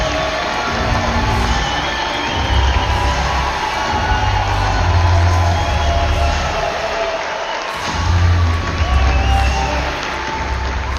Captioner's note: applause